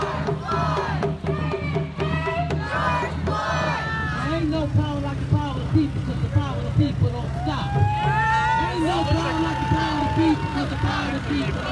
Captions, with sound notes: (drumming) (crowd chanting) - Ain't no power like the power of the people, 'cause the power of the people don't stop. (chanting)